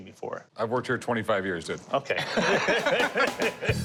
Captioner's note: laughs